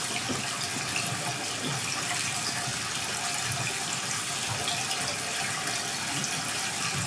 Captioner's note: water trickling continues